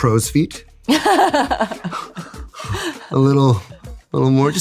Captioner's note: laughs